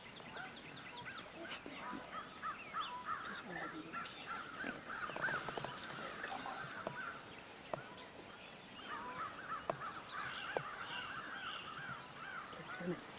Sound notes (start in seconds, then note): 7.4 birds tweeting